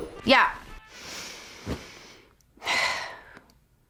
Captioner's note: sighs